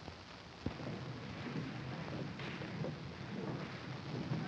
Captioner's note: horses approaching